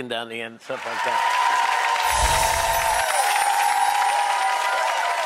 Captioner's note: applauding and cheering